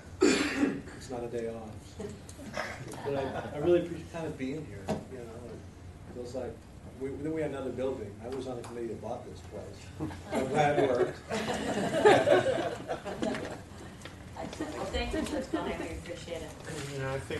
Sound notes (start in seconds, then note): 10.0 laughter